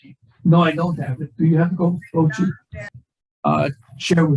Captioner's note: voice muffling